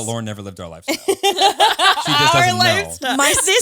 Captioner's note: all laughing